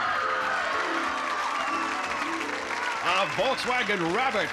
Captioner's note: cheering